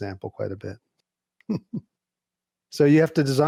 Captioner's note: chuckles